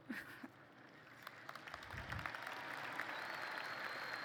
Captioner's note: applause